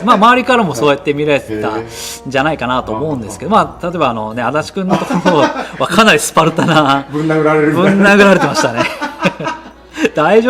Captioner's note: laughs